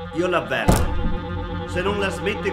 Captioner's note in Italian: Colpo sulla porta